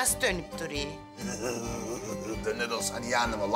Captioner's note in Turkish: Gülüyor